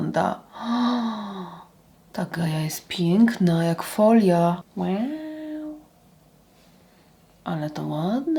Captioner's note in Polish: wciągnięcie powietrza